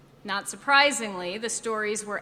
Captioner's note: none